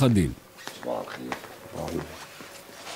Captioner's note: in Arabic